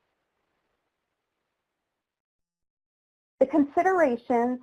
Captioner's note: silence